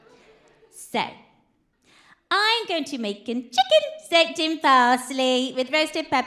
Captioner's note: posh accent